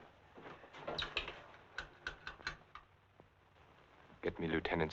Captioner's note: receiver rattling